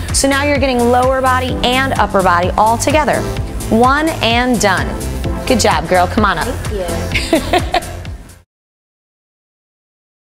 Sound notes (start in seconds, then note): 7.1 laughter